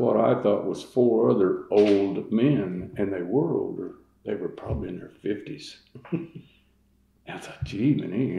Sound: laughter

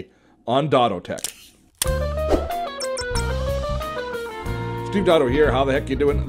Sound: air whooshing and upbeat music

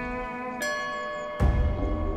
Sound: bell gong

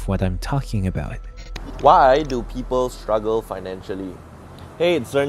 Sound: glitch sound effects

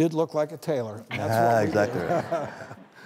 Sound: laughing

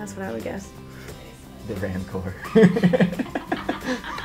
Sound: laughs; off-Camera: Laughs

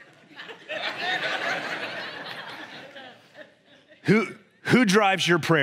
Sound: congregation laughs

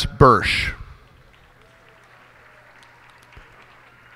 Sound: cheers and applause

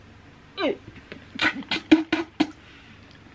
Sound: spitting noises

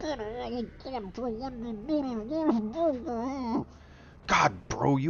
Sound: rambling

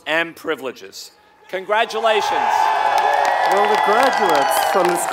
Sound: applause

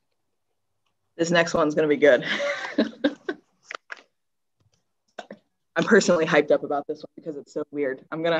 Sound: laughs

